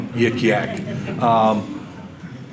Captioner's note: audience laughter